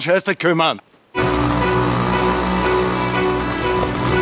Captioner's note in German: Mopedknattern